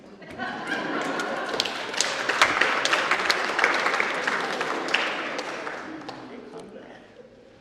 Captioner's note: applause